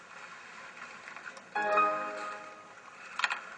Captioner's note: Windows reboot sound